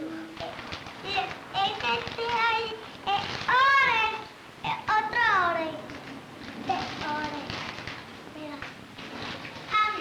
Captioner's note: Spanish speaking